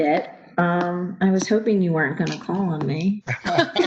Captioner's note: laughter